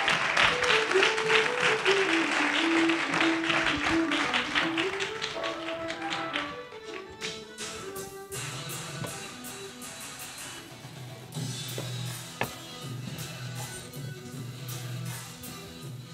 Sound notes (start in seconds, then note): 0.0 audience applauding; 3.1 soft instrumental music